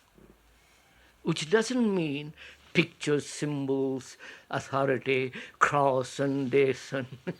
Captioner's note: laughs